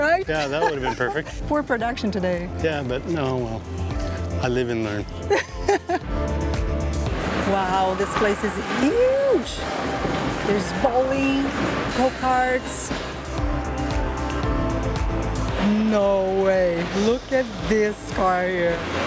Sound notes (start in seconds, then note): 5.2 laughs